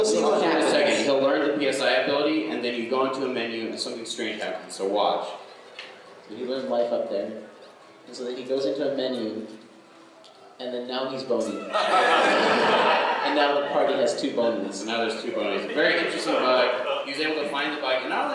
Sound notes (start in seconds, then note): 11.7 laughter